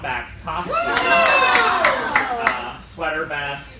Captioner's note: cheering